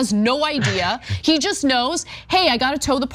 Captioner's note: laugh